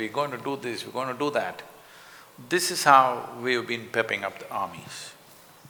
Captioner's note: none